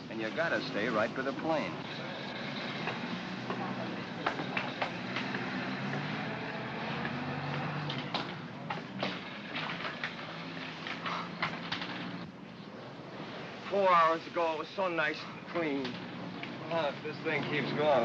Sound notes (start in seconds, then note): 4.9 vehicle rumbles in distance; 8.0 footsteps up stair ladder